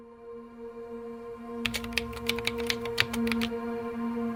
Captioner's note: soft music; keystrokes